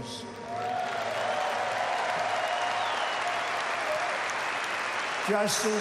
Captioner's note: applause